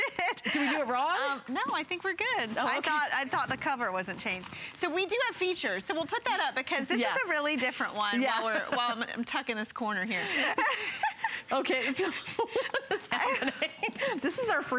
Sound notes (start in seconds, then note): 10.3 laughter